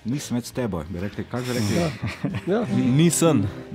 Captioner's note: in Styrian dialect